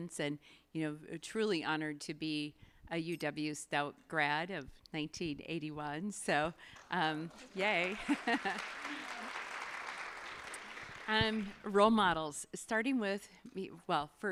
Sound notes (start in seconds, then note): 7.2 audience applauding; 7.8 laughs